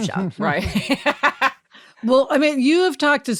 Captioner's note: laughs